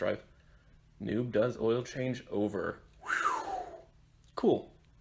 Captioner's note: whew